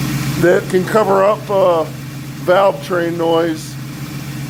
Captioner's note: engine idling